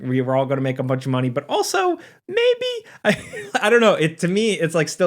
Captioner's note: laughs